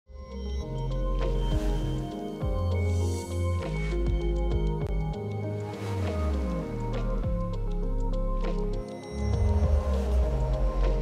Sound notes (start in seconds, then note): 0.0 soothing music; 1.4 words whooshing; 5.6 frame whooshing